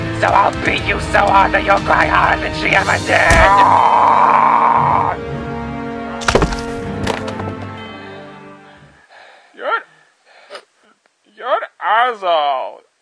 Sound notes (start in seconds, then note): 8.5 breathing heavy